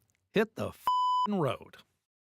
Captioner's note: beep